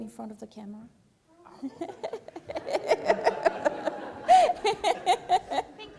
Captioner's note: laughter